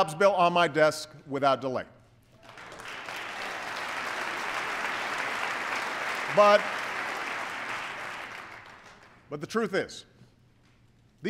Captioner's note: applause